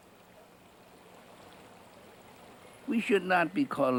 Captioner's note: raining